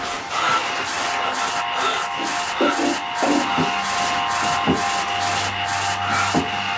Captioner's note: rat squeaks; Billy panting; suspenseful music continues